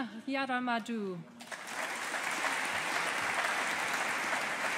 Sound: audience applauding

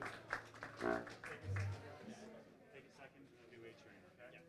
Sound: audience applauding; chatter

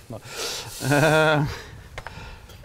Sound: chuckles

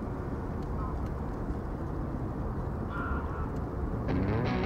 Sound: birds chirping

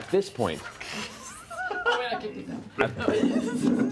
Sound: laughter

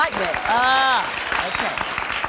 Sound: applause

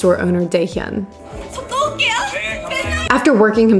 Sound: speaking in foreign language

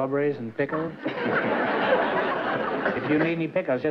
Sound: laughter

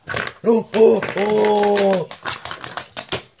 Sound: exclaims

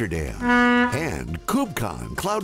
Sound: horn blaring

